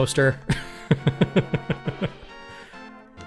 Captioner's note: laughing